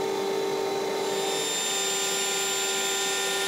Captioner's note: sharp grinding sounds